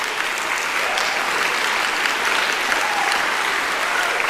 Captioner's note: applauding; cheering